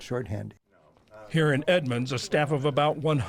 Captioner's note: voice-over